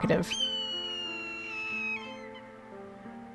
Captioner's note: hawk cry